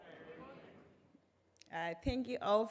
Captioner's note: crowd yells